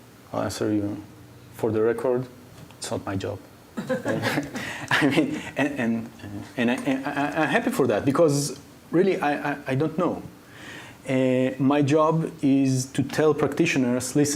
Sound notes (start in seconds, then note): 3.8 laughing